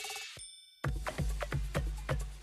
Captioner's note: bell dings; upbeat music